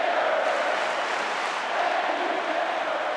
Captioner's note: audience clapping